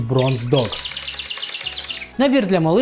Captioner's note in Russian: писк